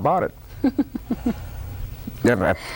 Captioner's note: laughter